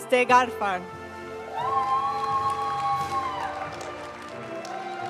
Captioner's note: audience cheering and applauding; graduation music